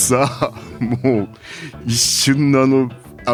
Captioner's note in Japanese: 笑い